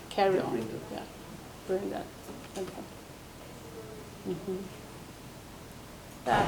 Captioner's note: murmurs